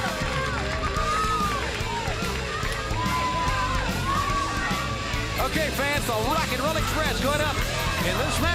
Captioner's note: crowd cheering